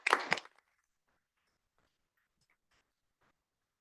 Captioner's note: applause